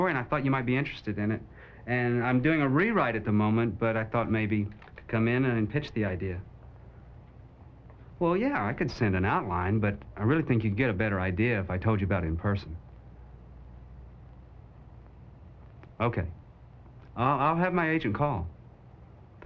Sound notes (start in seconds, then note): none